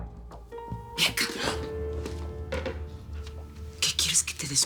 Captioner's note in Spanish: Voz baja